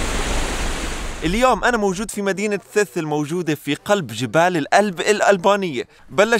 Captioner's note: Arabic